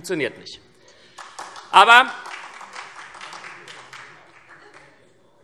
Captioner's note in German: Vereinzelter Beifall SPD